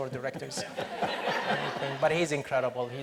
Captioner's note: audience laughs